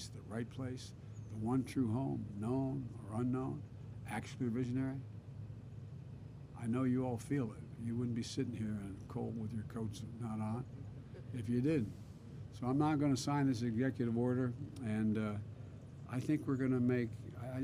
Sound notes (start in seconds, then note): none